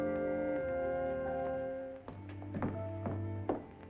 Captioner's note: footsteps